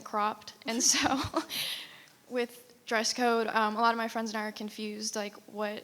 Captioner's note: laughs